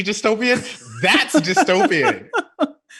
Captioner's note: laughing